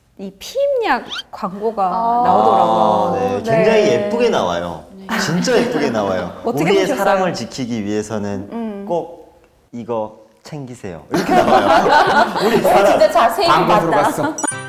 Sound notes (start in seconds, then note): 11.1 everyone laughs; 13.7 ukelele music